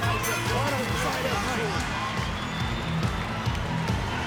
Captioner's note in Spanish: Campanada